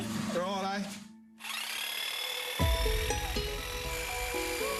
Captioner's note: shears whirring